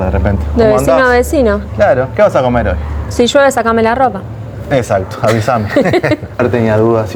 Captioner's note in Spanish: risas